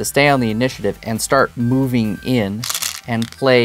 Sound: stones rattling

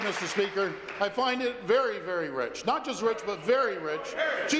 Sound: applause

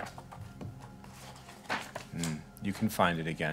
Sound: pages whooshing

